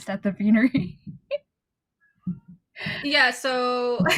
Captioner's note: awkward silence